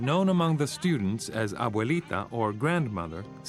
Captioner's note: speaks in foreign language